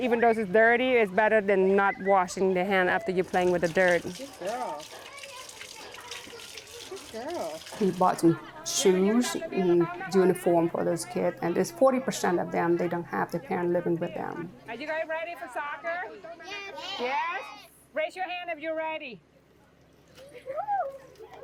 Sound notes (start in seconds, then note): 3.0 water splashes; 3.2 people chatter